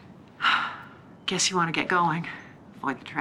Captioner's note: sighs